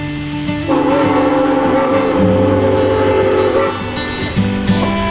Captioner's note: train horn honking